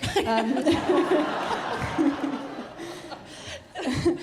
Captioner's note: audience laughing